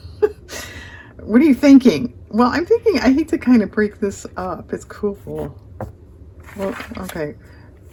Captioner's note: laughs